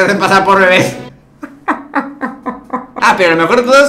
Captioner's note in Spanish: risas